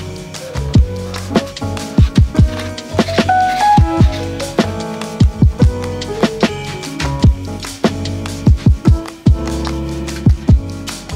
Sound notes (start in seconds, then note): 2.4 brush scraping